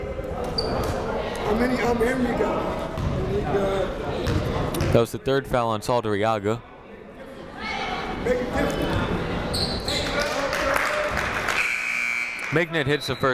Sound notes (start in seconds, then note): 10.1 clapping; 11.5 buzzer ringing